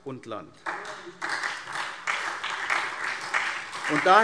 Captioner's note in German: Beifall SPD